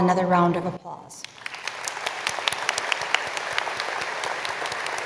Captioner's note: applause